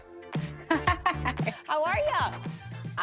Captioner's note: laughing